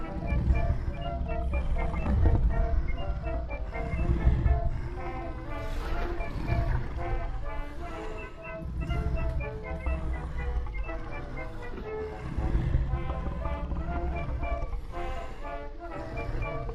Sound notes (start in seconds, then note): 0.1 monster rasping softly; 0.2 cheerful 1920's music; 10.3 cheerful 1920's music; 11.2 monster rasping softly